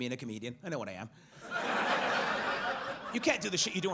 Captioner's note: audience laughs